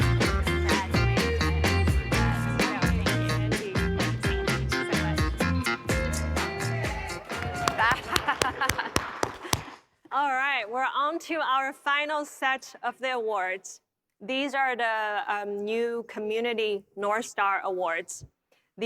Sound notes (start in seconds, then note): 5.4 laughing; 6.1 audience cheering